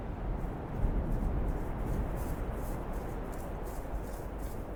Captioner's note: footsteps pattering